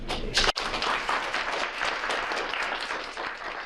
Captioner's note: applause